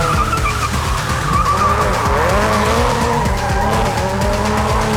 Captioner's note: cars revving